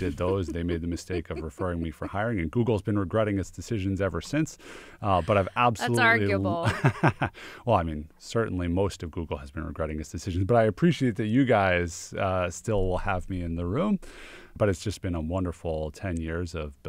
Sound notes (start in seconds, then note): 5.0 laughs